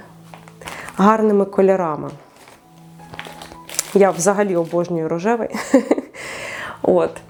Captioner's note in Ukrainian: сміх